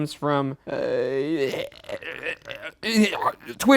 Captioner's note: groaning